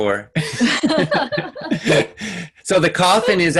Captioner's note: laughing